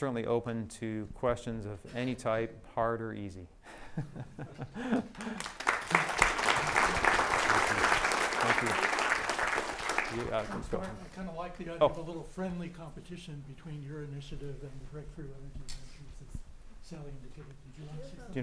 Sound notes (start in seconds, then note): 4.0 laughs; 4.9 applause